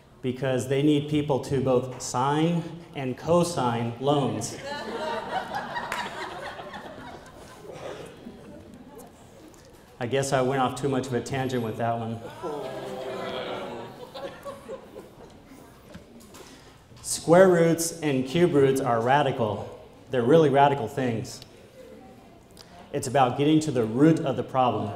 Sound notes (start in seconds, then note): 4.5 laughter